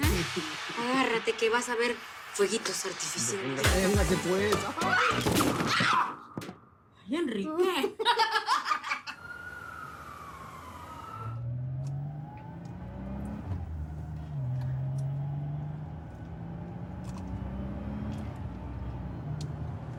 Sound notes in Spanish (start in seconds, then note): 4.8 Estrépito; 7.7 Risas